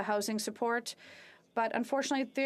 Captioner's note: speaking French